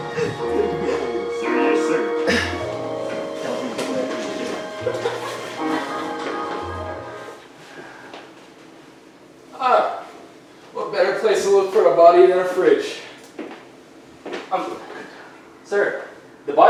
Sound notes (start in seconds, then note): 0.0 audience chatting; 7.4 footsteps